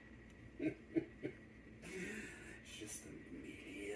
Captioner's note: Dawn Avenger chuckles